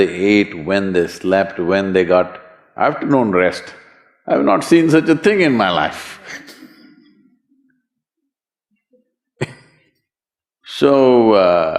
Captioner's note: laughs